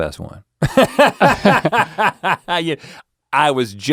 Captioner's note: laughing